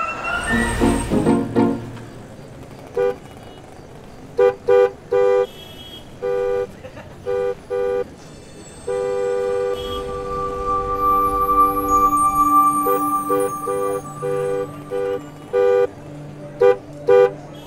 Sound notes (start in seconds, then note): 0.0 Car halts; 2.8 Car horn blaring repeatedly